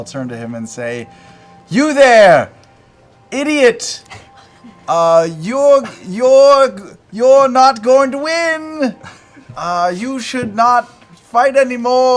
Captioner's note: stutters